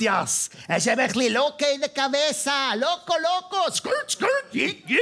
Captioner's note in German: Mit spanischem Akzent